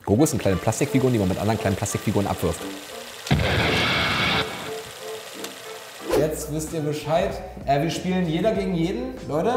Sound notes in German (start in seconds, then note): 3.3 explosion